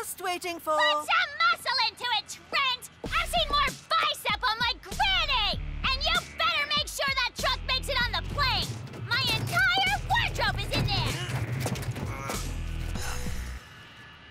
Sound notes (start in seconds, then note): 8.0 strains